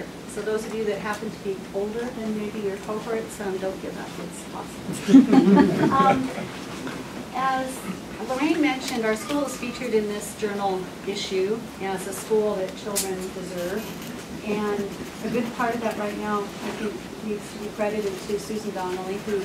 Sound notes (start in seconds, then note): 5.0 aughter